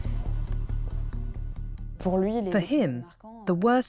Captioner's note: non-english speech